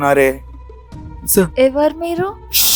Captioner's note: drowsy voice